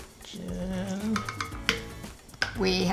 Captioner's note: cup tapping